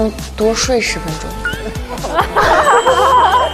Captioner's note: bursts into laughter